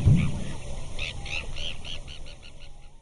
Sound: bird tweeting

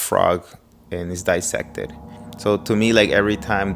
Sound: gong ringing

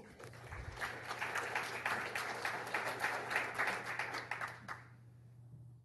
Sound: applause

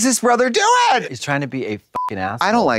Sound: beep

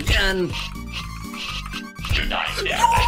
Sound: gameplay sounds

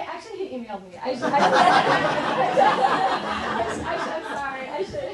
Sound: students laughing

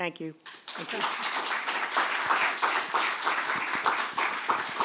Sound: applause

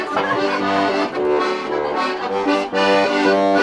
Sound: laughter; bouncy accordion music

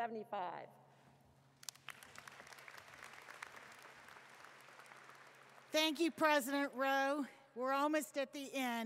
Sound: applause

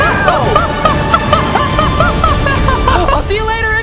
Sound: laughing

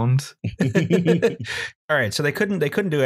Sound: laughter

